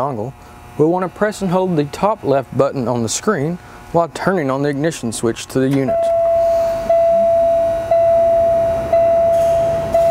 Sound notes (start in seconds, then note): 5.9 system beeps